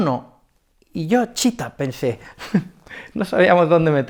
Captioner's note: laughs